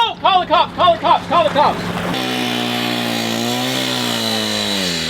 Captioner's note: engine roaring